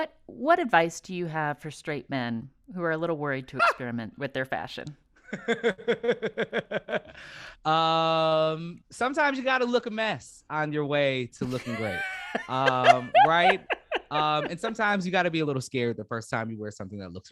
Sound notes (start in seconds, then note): 5.2 laughter; 11.4 laughter